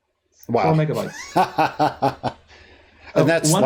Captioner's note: laughs